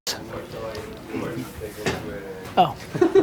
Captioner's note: people chat